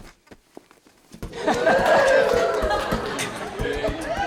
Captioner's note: cheering and beatboxing